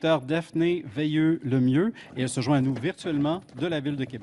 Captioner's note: speaking French